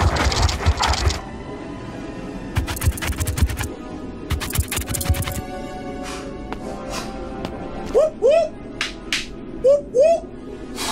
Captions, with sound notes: (scorpions scurry) Woo, woo. (bones clap) Woo, woo.